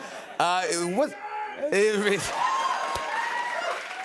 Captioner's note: cheers and applause